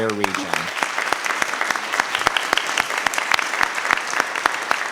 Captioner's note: audience applauding